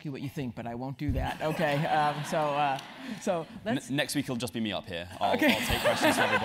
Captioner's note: laugh